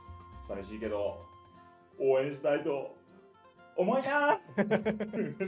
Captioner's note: laughs